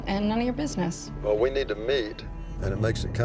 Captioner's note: on phone